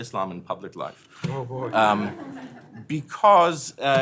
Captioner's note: laughter